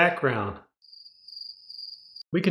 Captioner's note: crickets